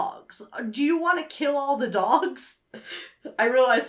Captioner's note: chuckles